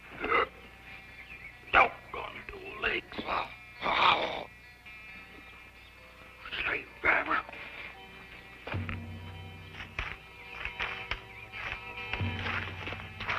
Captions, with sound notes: Doggone it, old legs. [grunting] Slave driver. [suspenseful music]